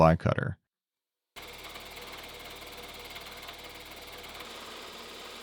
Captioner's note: burnisher whirring